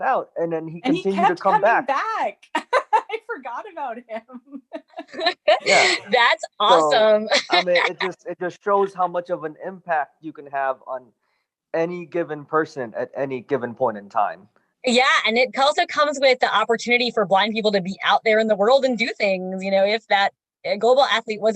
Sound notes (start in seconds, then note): 4.8 laughs heartily; 6.7 laughs